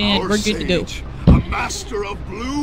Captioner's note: laughter